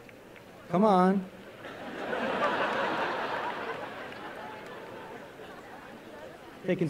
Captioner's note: applause